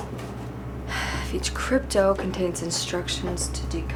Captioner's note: sighs